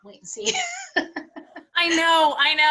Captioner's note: laughs